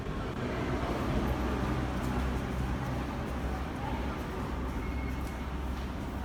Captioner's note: arrival of train at the station